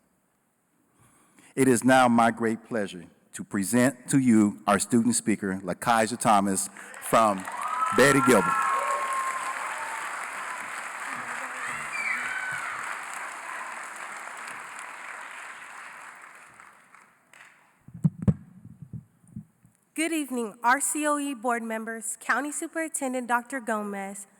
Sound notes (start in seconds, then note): 9.1 cheering & Applause